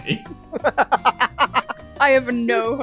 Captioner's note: laughter